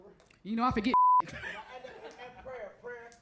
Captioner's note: crowd member 9 speaks faintly; beep